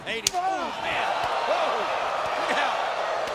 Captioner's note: crowd gasps